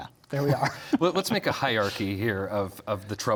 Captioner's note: both laugh